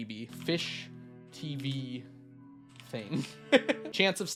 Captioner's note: laughs